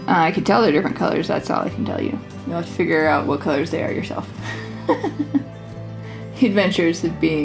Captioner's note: laugh